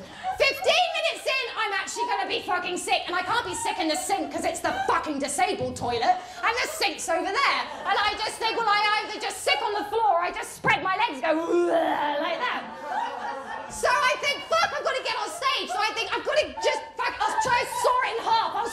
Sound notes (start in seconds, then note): 11.6 vomit sound